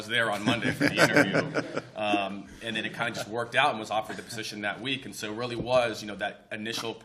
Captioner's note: laughter